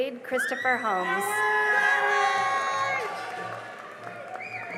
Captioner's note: cheering and applause